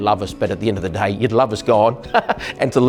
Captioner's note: laughs